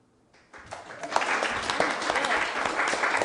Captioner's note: applause